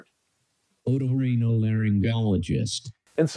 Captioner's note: AI speech